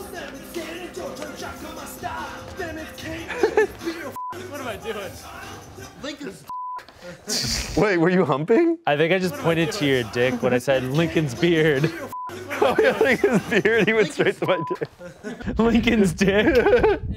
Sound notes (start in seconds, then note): 3.0 laughs; 6.5 beep; 16.2 laughs